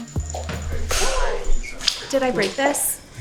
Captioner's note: Kim gasping